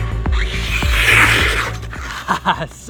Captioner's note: scraping; laughs